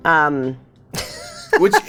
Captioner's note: laugh